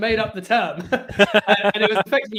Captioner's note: everyone laughs